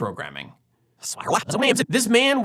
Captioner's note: backward Speaking